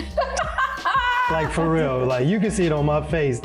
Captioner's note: laughing